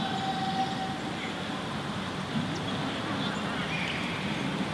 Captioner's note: birds chirping